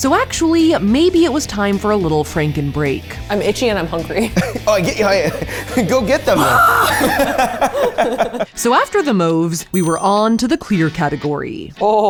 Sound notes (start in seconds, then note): 6.3 screams; 6.6 laughs